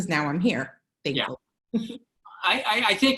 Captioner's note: laughter